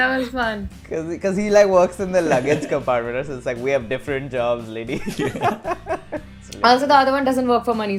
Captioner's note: laughter